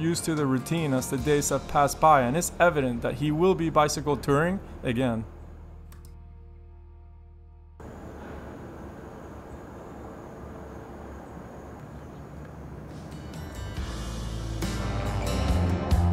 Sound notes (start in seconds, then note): 7.8 crickets chirping; 12.2 gentle music